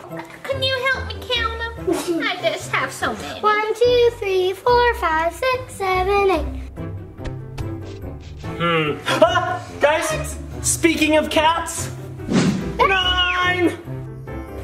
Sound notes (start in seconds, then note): 7.0 pats; 13.1 screams